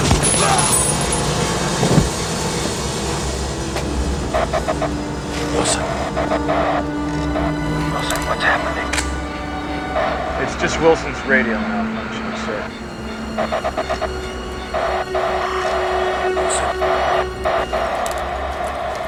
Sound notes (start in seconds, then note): 0.1 Wilson groans; 0.2 shots cracking; 4.8 static crackling; 13.7 static crackling